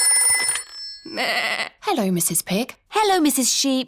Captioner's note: phone rings; bleats